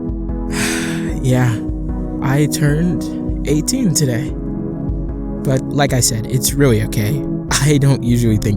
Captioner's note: sighs